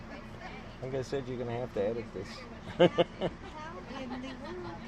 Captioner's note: laughs